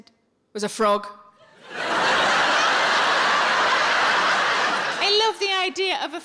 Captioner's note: audience laughing